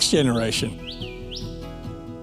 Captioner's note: bird singing